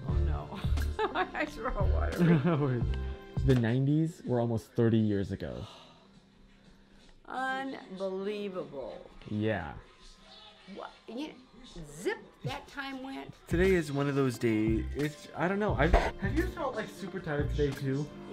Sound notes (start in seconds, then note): 2.1 laughs